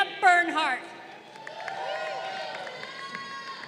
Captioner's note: crowd cheering